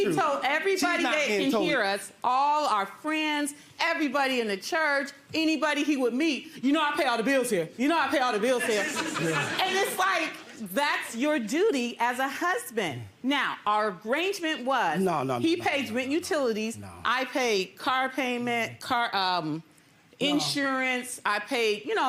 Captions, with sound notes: - She's not telling the truth. - He told everybody that can hear us, all our friends, everybody in the church, You know I pay all the bills here. (audience laughs) Now our arrangement was he paid the utilities,